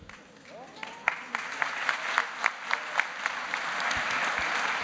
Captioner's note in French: Applaudissements